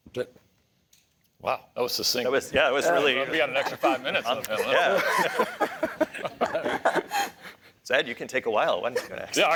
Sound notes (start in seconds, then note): 3.2 laughter